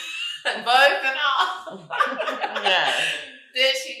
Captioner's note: chuckles; laughing; chuckles